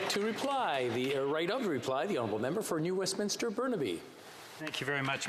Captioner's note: applause